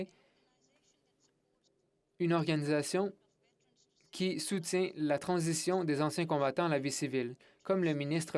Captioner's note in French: voix de l'interprète